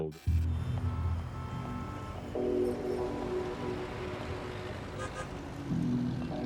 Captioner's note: somber music; car horns honking